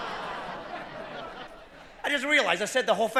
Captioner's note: laughter